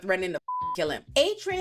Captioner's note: beep